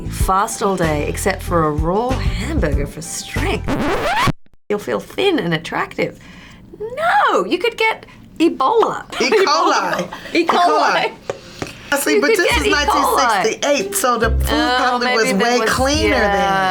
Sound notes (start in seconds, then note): 3.5 record stops abruptly